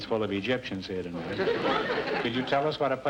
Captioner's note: audience laughter